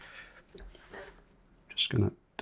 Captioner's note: silence